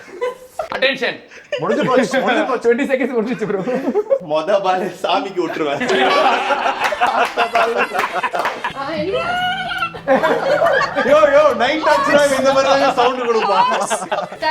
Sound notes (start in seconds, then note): 5.2 laughing